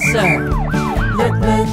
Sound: vehicle sounds siren

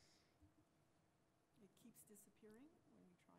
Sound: voiceover

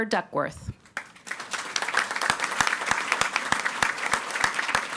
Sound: audience applauding

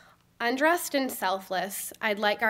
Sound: none

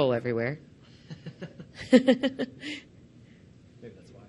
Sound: laughs

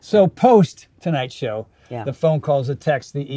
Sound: none

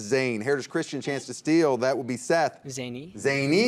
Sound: buzzer beeps

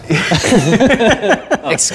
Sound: laughing

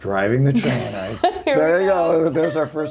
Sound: laughing

